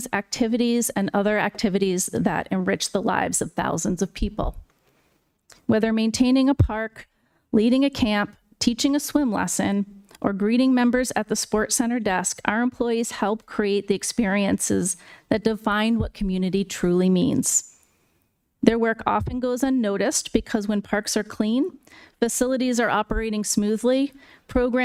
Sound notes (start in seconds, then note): none